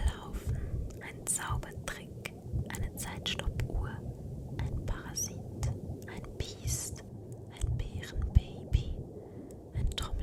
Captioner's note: whispered